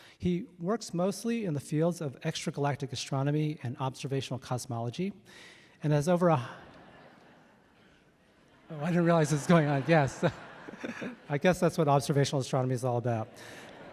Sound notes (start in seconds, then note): 6.4 audience laughing; 8.8 laughs; 13.0 audience laughing